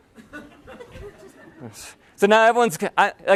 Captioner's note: laughter